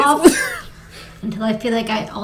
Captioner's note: laughs